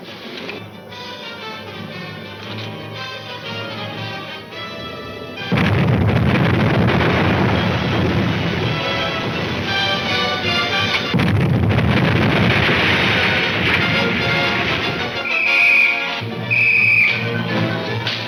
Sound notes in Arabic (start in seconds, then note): 0.2 موسيقى درامية ناعمة; 4.5 انفجارات متفجرة; 10.0 انفجارات متفجرة; 15.0 صافرة تنفخ بشكل محموم